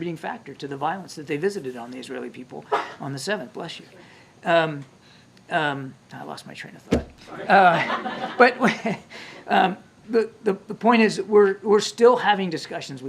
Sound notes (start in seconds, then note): 2.7 reporter sneezes; 7.3 laughter